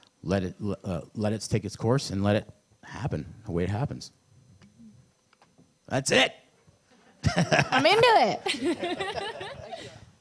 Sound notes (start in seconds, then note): 7.0 laughs